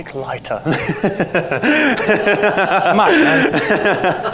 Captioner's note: laughs